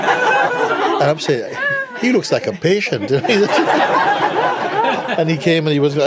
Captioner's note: laughter